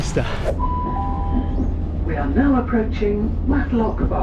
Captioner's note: train announcement